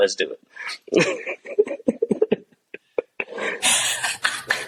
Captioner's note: background laughter